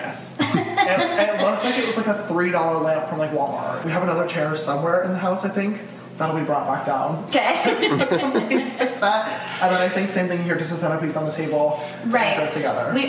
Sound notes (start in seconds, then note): 0.4 laughing; 7.6 laughing